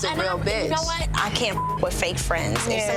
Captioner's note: beep